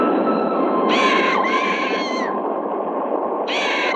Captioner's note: bird screeching